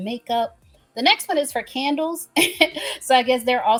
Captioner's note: laughs